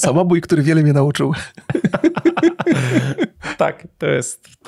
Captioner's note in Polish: śmiech